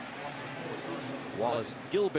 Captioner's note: pa announcement